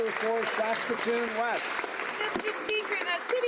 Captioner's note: some Applause